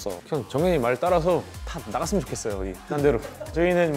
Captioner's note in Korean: 웃음